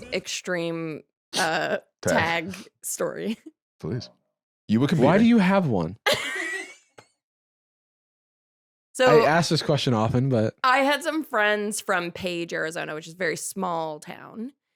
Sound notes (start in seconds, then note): 6.0 laughs